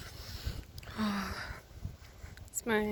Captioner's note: sighs